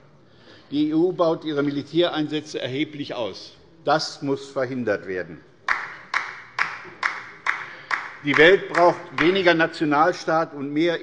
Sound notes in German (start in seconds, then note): 5.6 Beifall bei der LINKEN